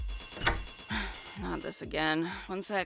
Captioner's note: sigh